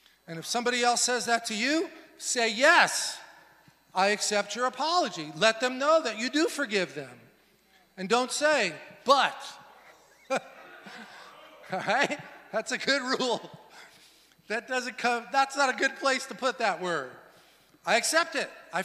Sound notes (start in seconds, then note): 9.8 laughs